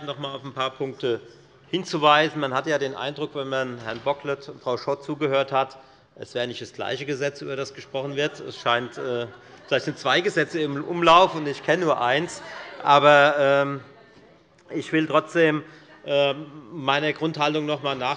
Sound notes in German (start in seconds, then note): 8.6 Heiterkeit der Abg